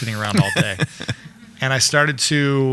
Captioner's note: laughs